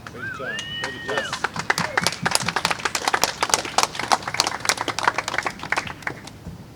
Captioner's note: applause